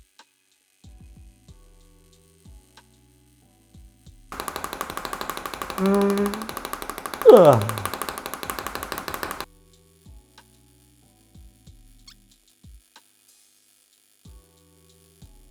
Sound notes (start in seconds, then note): 4.4 yawn